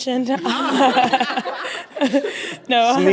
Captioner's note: laughter